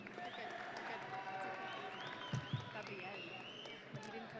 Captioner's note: audience cheering